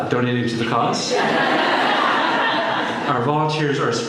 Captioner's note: laughter